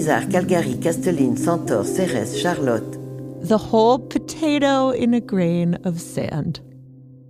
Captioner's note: speaking in French